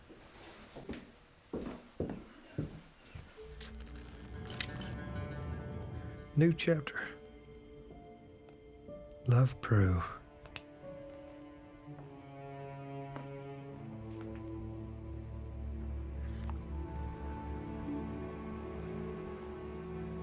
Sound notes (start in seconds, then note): 1.5 footsteps; 4.1 clicking sound; 10.5 contemplative music